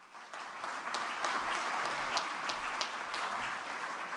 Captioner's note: applause